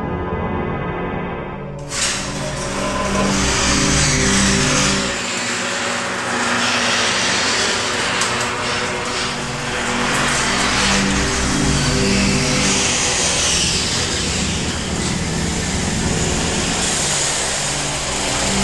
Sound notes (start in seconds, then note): 0.1 air released as door opens; 4.4 rollers on track; 8.6 eerie music; 12.9 tires rolling